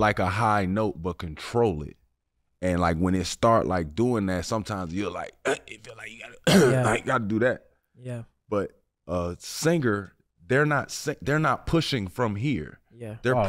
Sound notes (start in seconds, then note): 5.4 grunts; 6.3 clears throat